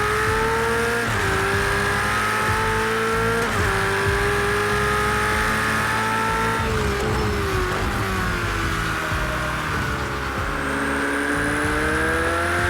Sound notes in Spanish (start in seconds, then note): 0.0 Sonido de motor